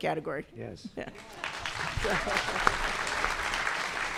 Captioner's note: applause